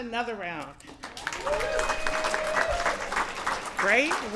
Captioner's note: applause